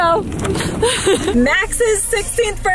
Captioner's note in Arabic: ضحك